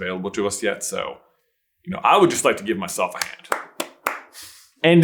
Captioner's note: self applause